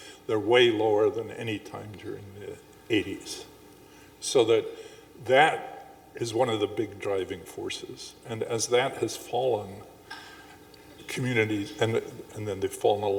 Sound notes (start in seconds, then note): none